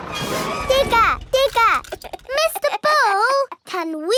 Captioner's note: chuckles